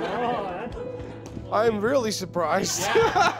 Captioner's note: chuckles